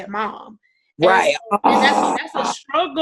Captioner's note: groans loudly